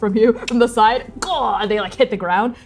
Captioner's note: jaw clicking